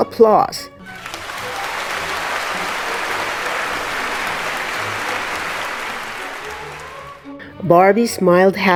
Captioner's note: audience's applause